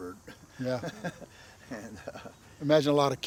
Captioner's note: laughing